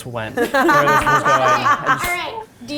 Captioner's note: laughs